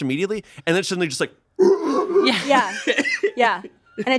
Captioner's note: imitates toilet whirring